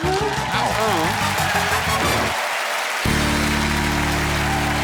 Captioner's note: cheering and applause; audience applauding